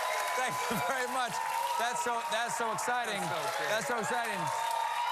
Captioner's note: cheers and applause